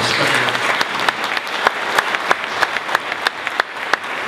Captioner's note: audience applauding